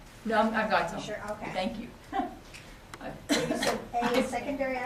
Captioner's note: chuckles